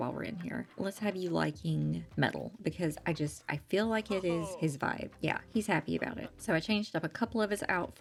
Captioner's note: he cheers